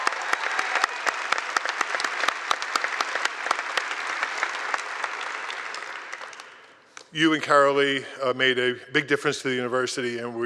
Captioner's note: cheers and applause